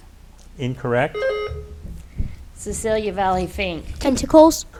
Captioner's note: buzzer beeps